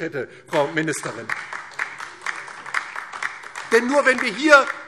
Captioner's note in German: Beifall DIE LINKE